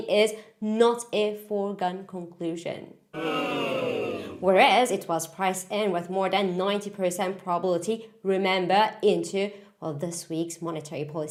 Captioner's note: boooo